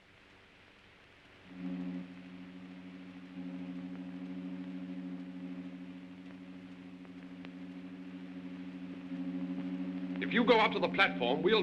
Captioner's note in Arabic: طنين الرافعة